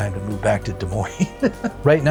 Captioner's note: laughs